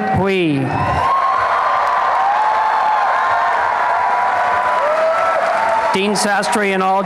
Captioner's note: applause and cheering